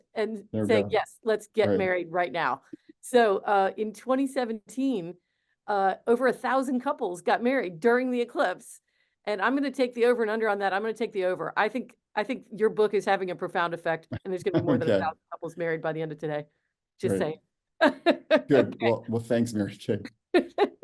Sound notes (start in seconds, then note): 17.9 laughs